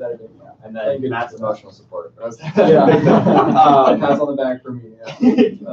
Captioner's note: laughter